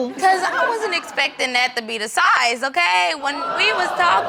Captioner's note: audience laughing